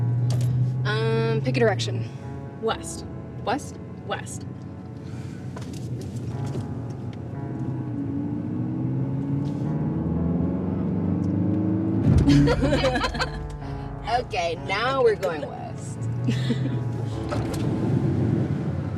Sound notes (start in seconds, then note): 9.3 car engine revving; 12.2 Kimberly and Bethany laugh